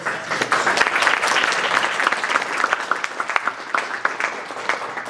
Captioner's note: audience applauding